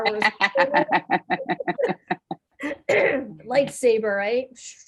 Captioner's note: laughing